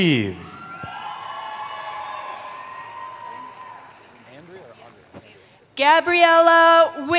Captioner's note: cheering